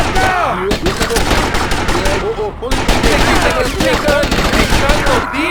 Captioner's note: gunshots